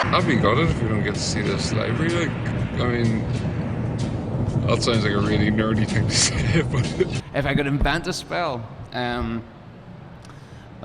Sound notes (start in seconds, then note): 6.3 laughs